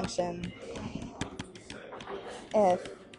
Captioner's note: stylus taps